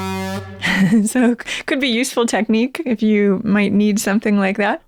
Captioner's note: laughter